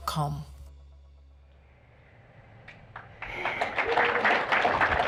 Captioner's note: applause